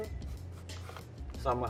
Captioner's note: cutting onion